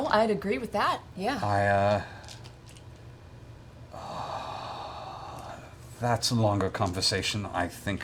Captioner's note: sighs